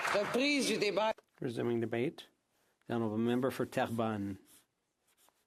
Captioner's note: some Applause; speaking French